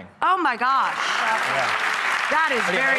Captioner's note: audience applauding